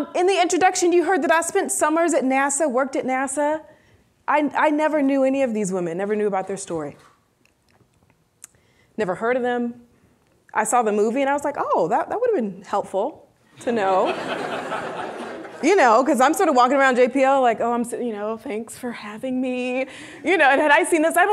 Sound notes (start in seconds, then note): 13.8 audience laughing